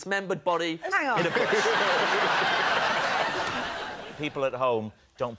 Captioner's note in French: rires